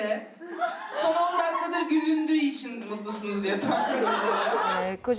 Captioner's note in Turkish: Gülüşmeler